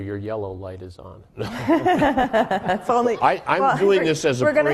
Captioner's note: laughing